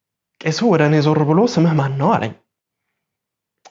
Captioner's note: in amharic